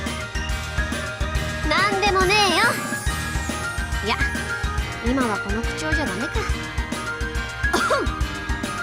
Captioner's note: cough